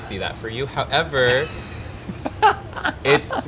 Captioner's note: laughing